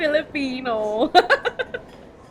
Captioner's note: laughs